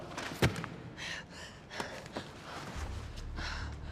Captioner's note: breathing heavily